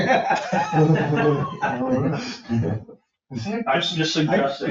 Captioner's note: people laughing